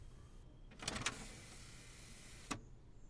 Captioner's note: machine whirrs